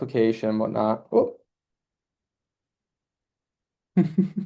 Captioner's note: chuckles